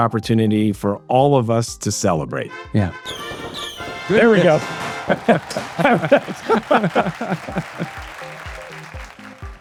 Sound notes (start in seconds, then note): 2.8 triumphant fanfare; 3.2 confetti popping